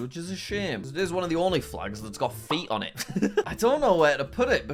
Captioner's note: laughs